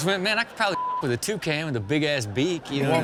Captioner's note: beep